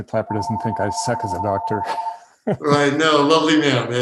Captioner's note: laughing